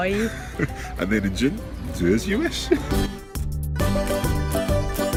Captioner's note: speaks in foreign language; laughs; happy Italian music